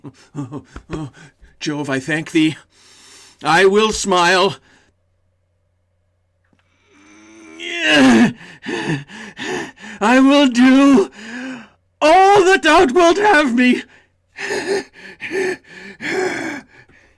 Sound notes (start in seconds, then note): 7.7 strains; 8.3 heavy breathing; 13.9 strained laughing